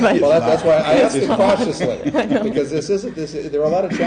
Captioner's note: all laughing